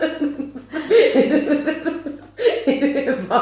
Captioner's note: hysterical laughing part 2